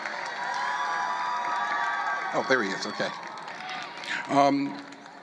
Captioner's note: applause